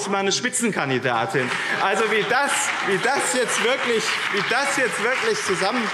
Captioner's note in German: Beifall BÜNDNIS 90/DIE GRÜNEN und CDU